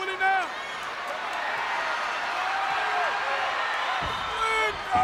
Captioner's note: audience cheers